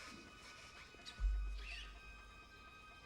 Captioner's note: whispering